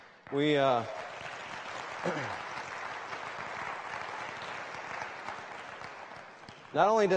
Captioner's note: applause